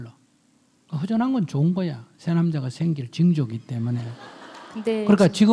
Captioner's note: audience laughs